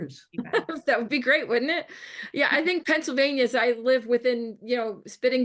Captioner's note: laughs